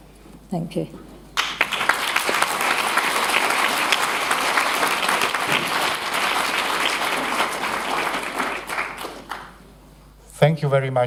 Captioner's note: applause